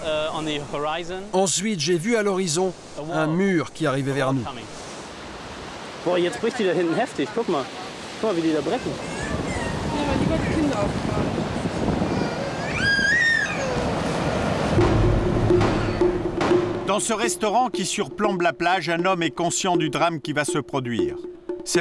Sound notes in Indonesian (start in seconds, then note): 9.4 suara gemuruh ombak